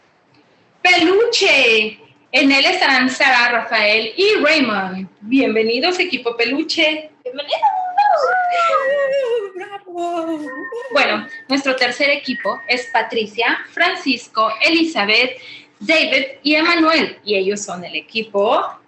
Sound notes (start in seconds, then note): 8.1 team cheering; 11.2 woman speaking Spanish